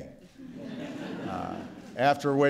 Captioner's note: laughter